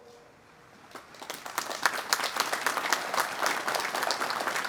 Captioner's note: audience applauding